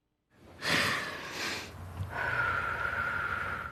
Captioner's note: deep breaths